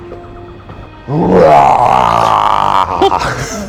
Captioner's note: roar